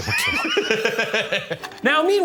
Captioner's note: laughing